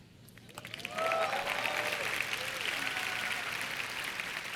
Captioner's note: cheers and applause